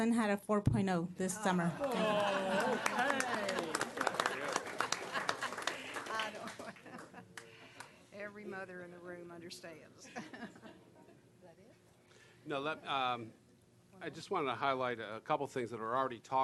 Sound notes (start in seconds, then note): 1.7 laughing; 1.8 applause